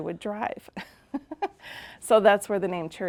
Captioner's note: laughing